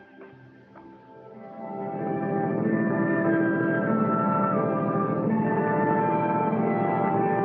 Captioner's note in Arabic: موسيقى متدحرجة; هدير القارب